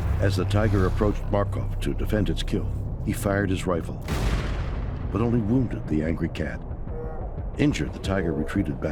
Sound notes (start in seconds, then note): 4.0 gun shooting